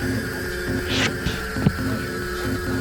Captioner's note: whoosh sound and impact